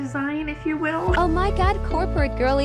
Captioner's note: TikTok Voice